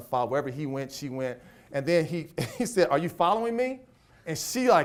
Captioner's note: laughs